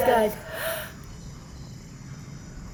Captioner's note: gasp